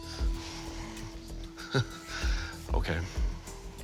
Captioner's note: chuckles